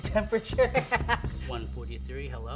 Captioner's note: laughing